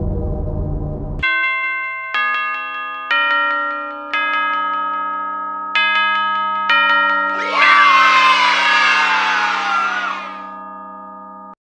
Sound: bells

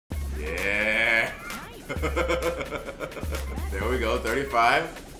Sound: laugh

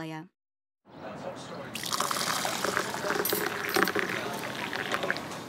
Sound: pouring water

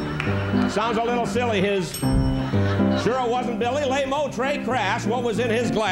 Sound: bell

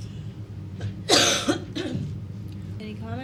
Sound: coughs

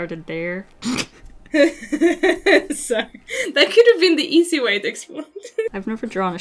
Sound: maniacal laugh

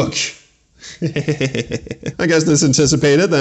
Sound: derisive chuckling

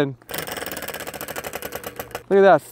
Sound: wheel whirring

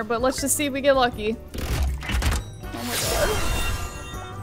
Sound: fuse machine dings

